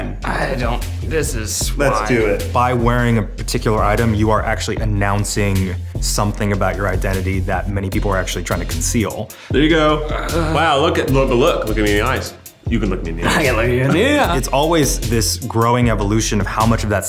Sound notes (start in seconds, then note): 9.8 groans